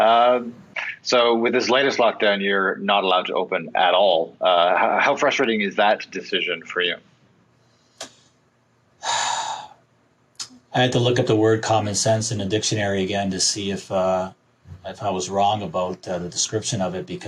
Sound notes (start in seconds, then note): 9.0 sighs